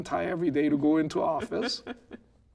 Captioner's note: laughing